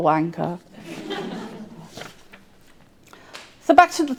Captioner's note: audience laughing